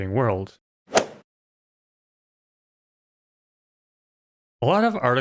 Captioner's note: golf ball hit sound